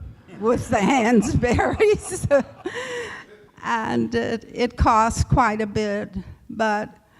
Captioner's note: laughter